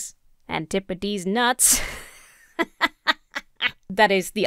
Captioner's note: laughs